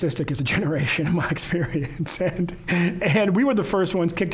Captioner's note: laughing